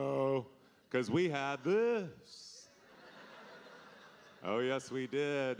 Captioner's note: audience laughing